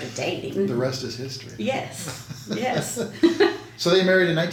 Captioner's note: laughs